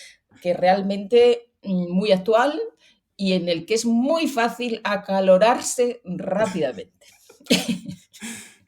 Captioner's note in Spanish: risas